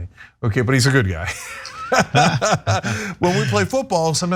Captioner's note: laugh